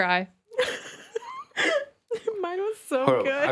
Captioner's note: laughing